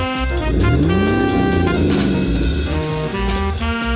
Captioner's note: SFX: Car engine reve